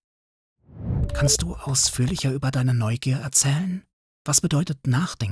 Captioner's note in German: flüsternd